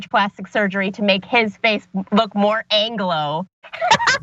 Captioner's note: laugh